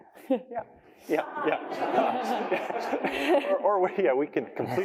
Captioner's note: laughter